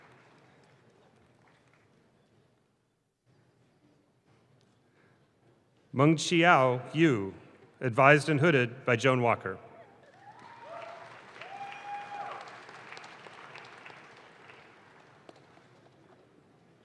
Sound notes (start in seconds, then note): 10.1 audience claps